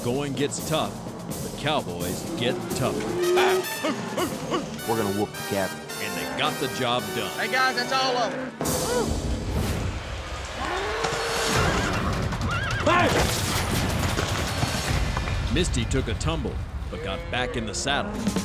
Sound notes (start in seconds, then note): 10.1 cow moos; 10.6 horse neighing